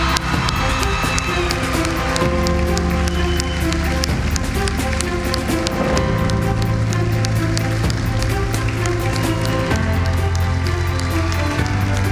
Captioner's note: cheering and applause